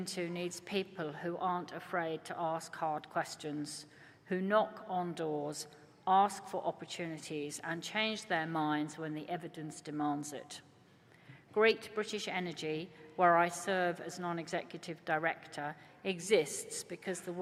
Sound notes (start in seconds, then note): none